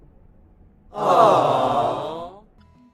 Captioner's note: awww